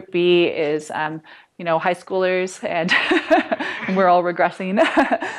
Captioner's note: laughter